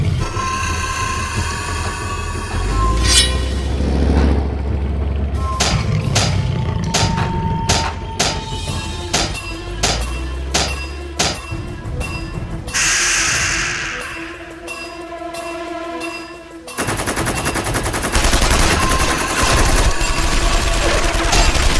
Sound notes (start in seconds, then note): 0.1 beast shrieks; 2.8 stinger clinks; 5.5 steps thudding; 12.7 beast shrieks; 16.7 tank gun blasting